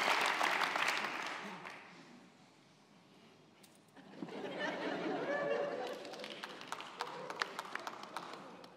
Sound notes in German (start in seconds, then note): 4.2 Lachen